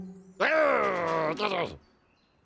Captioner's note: growls